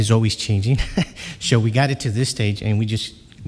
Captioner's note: chuckles